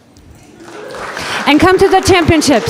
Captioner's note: audience applause